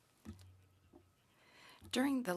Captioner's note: speaking French